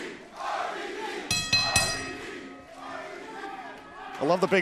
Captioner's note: bell ringing